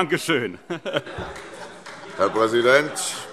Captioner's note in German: Heiterkeit und Beifall CDU